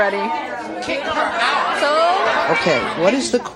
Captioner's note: audience hollering